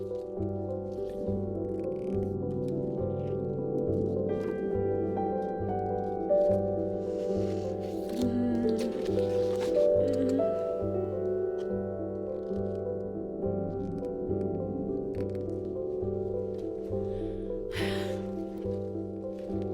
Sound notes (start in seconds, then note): 8.1 groans; 17.6 sighs